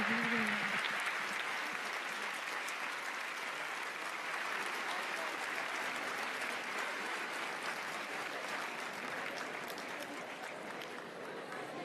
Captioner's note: applause